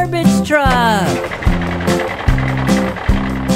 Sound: vehicle sounds

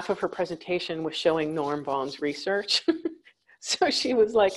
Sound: chuckles

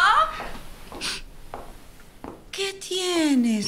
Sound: approaching footsteps

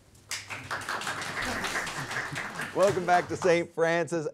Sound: audience claps

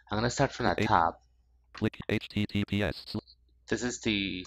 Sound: screen reader voice

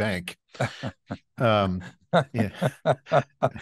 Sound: laughing

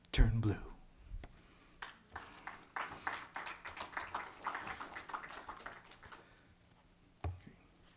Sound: clapping

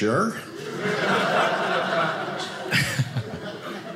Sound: audience laughing

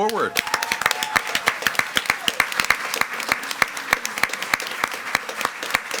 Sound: attendees cheering and clapping

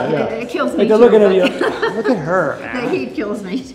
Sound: Cynthia laughs

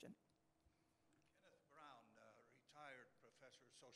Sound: voiceover

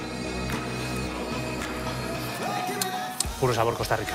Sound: none

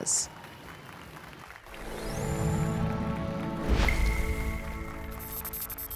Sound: applause and cheers

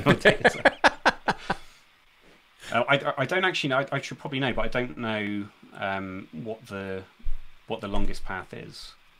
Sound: laughing

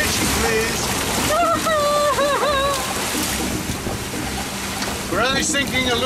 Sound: whimpering

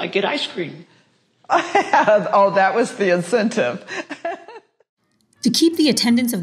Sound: laughs

